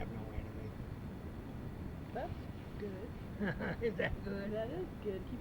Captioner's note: laughs